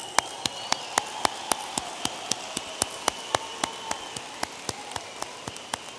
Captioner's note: audience applauding and cheering